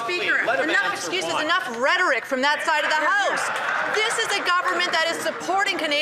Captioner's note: some Applause